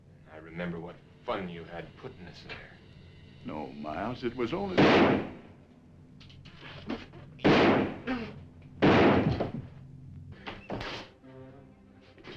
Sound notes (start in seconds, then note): 4.7 gun firing; 9.5 dramatic music